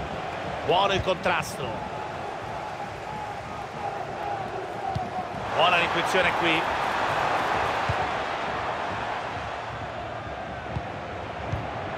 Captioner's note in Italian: Applauso